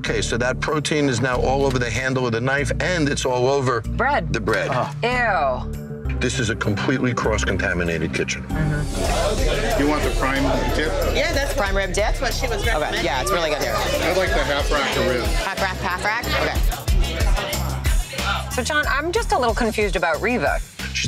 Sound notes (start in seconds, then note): 9.1 bar bustling; 16.9 suspenseful music